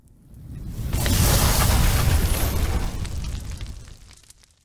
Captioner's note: loud sizzle noise